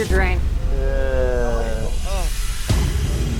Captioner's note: groans